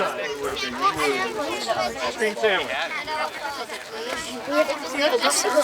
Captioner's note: indistinct chatter